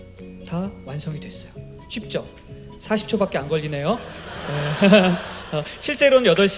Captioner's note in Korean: 웃음